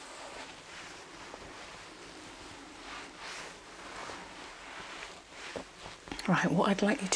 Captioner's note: shuffling and ruffling